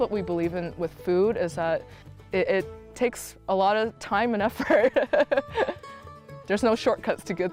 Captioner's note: laughs